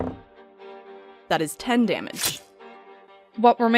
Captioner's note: dice thunks; slashing impact